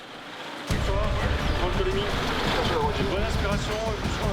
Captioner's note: French spoken audio